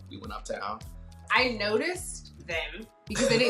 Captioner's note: laughs